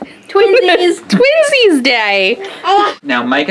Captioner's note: laughs